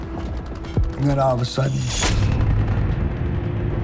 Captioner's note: gunshot